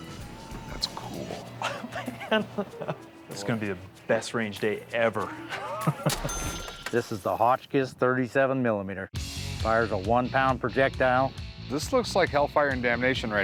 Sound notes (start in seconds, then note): 1.3 chuckling